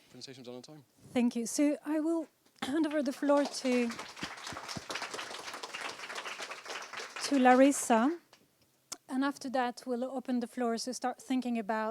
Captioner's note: applause